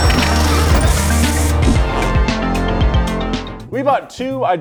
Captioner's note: spray paint sprays; upbeat music